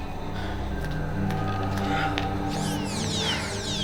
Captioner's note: Lex panting